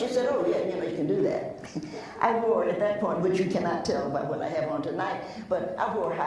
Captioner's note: laughs